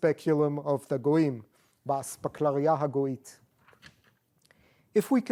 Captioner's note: non-english